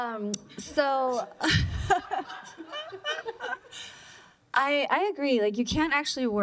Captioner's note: laughter